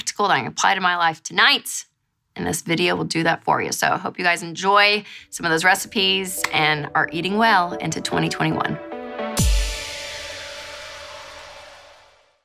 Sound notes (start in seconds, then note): 6.1 claps; 8.8 synth music